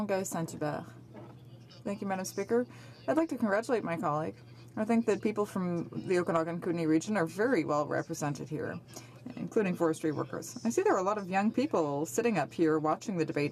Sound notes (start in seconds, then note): 4.1 speaking French